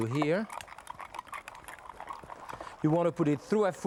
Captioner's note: strainer rattling